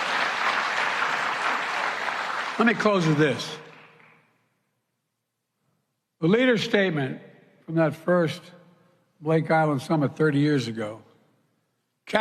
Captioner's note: applause